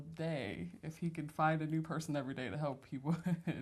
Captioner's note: laughs